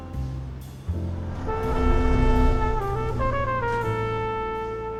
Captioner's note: spaceship whooshes